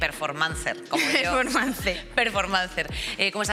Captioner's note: laughter